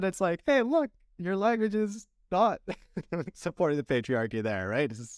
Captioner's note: laughter